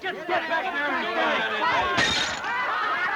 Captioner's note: people chattering; people laughing